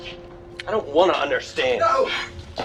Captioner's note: train horn blowing